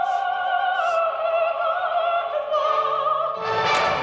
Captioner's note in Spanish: Timbre del ascensor